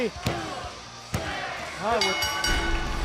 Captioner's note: bell ringing